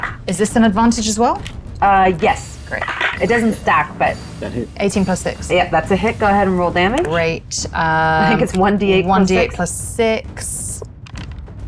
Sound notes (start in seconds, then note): 2.5 die rattling